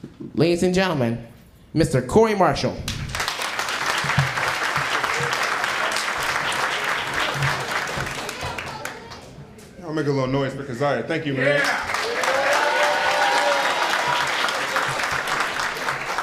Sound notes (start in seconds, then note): 3.0 applause